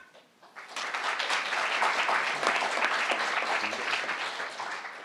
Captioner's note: crowd applauding